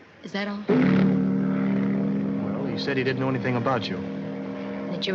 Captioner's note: horn Blowing